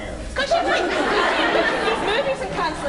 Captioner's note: laughs